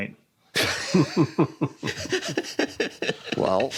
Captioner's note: laughter